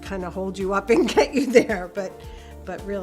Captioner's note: laughs